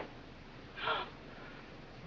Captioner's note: gasp